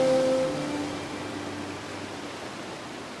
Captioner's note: waves lapping